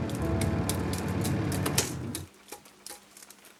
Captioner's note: film reel clicks